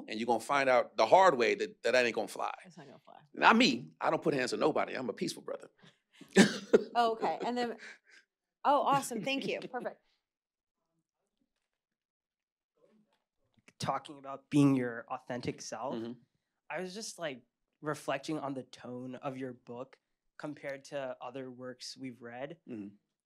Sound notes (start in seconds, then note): 6.3 chuckles